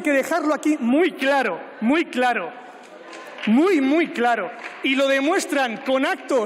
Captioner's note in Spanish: Aplausos